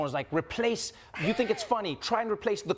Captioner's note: Jennette laughs